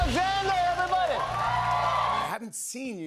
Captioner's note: cheers and applause